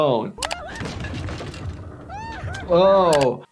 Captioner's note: Toothy shrieking